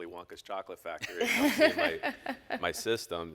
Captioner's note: all laugh